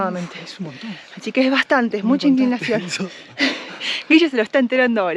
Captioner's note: laughs